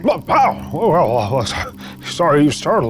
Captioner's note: grunts